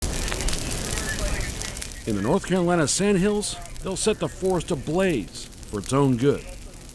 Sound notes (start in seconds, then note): 0.0 fire crackling